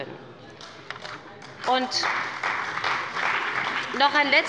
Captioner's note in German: Beifall bei BÜNDNIS 90/DIE GRÜNEN und der CDU